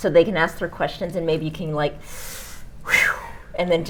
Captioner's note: sighing